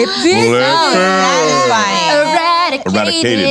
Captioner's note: cheering